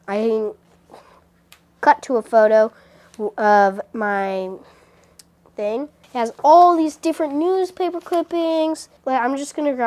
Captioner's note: snap